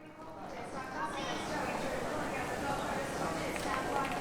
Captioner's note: people chattering